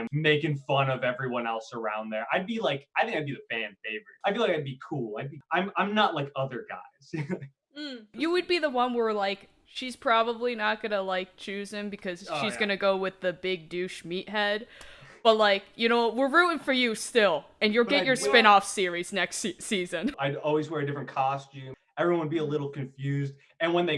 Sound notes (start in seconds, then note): 7.1 laughs